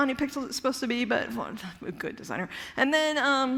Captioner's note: mumbles